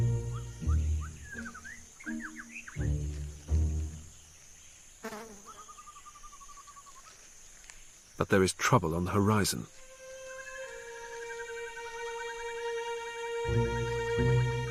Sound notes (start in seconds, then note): 0.0 whimsical music; 5.0 fly buzzing; 9.9 dramatic music